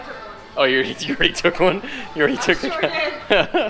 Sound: laughs

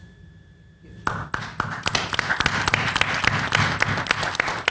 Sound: panel applauds

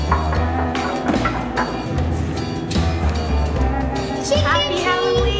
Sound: knock

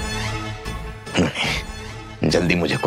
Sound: gasping

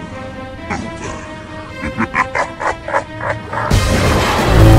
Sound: laugh

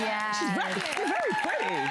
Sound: applause

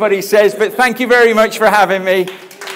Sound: audience applauding; chuckles

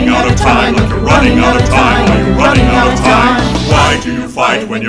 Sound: awwww!

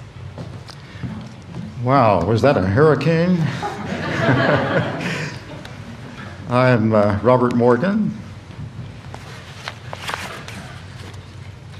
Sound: laughter

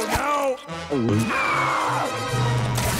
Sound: screaming

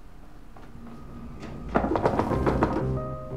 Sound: door knocks

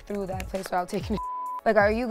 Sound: beep

